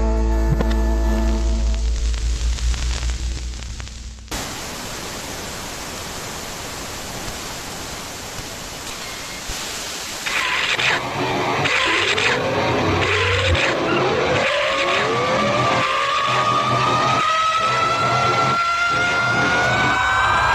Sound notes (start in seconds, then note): 0.7 TV static; 10.2 film reel rolling getting louder; 15.6 amplifying screeching; 20.3 a punk scream